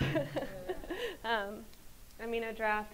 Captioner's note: laughs